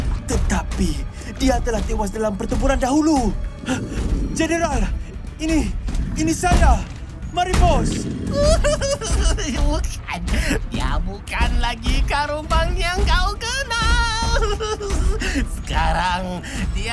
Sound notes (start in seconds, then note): 3.6 Karumbang grumbles; 8.2 snickering